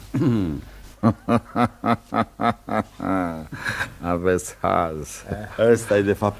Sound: laughs

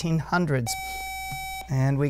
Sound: buzzer

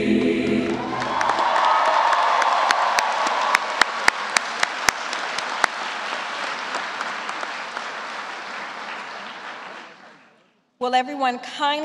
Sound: applause

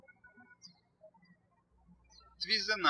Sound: birds chirping

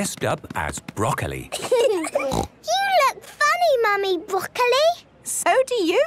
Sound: laughing, snort

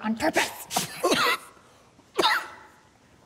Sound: coughs and splutters

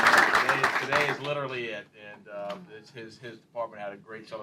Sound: applause

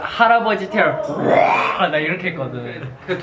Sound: roar

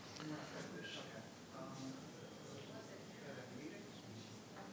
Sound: people talking quietly

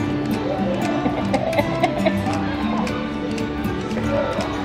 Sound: laughing

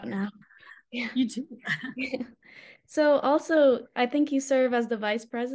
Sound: laughter

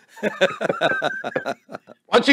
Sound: both laugh

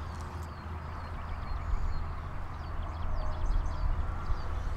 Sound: birds tweet

